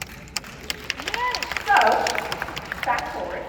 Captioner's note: applause